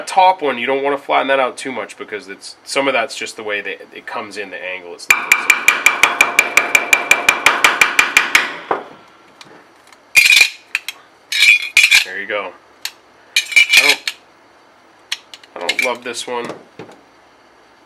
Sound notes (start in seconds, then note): 5.1 hammering on metal